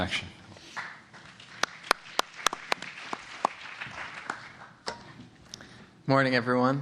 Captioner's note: applause